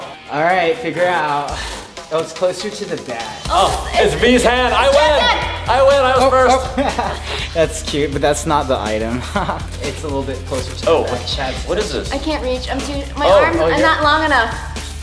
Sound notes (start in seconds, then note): 7.3 laughs; 8.8 chuckles